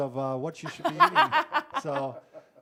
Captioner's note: laughing